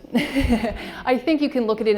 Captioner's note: laughing